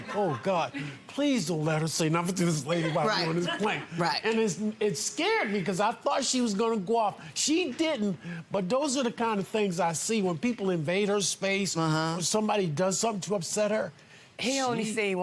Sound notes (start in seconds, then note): 4.7 audience laughs